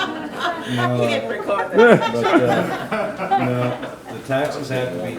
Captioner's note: audience laughing